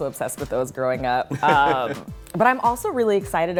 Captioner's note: laughs